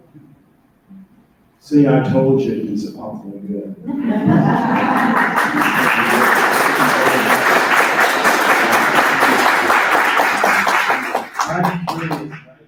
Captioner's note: laughter and applause